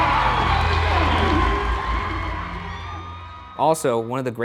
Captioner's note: audience cheering